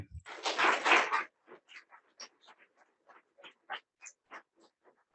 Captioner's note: audience applauding